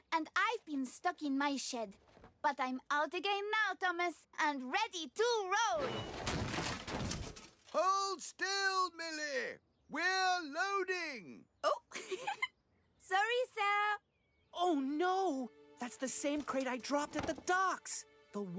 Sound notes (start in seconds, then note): 5.8 thump!; 11.7 giggles